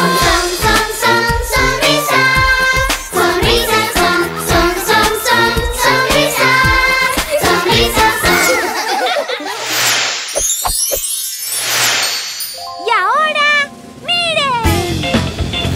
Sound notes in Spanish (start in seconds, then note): 8.2 Risas; 13.8 Sonido de avión